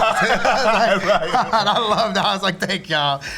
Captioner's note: laughter